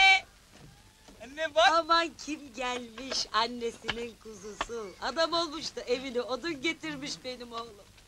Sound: sounds come from the TV

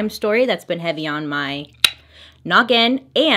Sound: tongue click

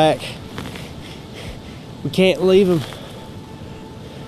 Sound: panting

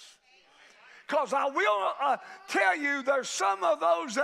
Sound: crowd shouting

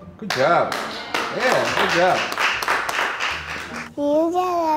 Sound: clapping

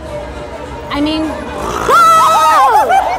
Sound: snorting

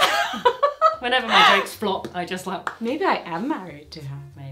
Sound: pops

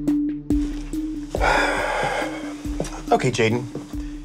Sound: sighing

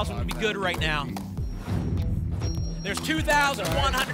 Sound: whoosh

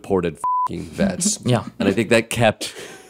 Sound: chuckling

